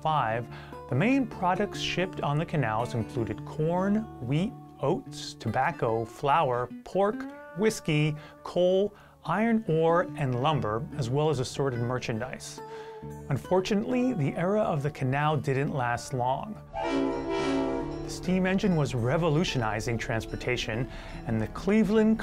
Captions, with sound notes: 1905 THE MAIN PRODUCT SHIPPED ON THE CANALS INCLUDED CORN, WHEAT, OATS, TOBACCO, FLOUR, PORK, WHISKEY, COAL, IRON ORE, AND LUMBER, AS WELL ASSORTED MERCHANDISE. UNFORTUNATELY THE ERA OF THE CANAL DIDN'T LAST LONG. [ TRAIN WHISTLE ] STEAM ENGINE WAS REVOLUTIONIZING TRANSPORTATION AND CLEVELAND,